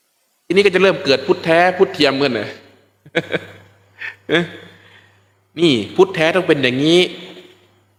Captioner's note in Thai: เสียงหัวเราะ